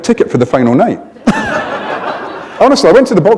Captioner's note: laughter